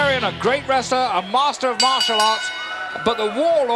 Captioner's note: bell ringing